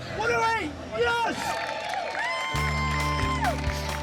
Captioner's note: cheering